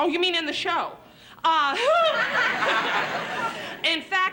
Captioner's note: laughs